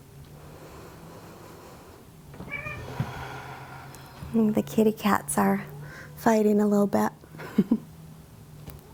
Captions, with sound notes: (inhales) (exhales) (cat meowing) The kitty cats are fighting a little bit (chuckles).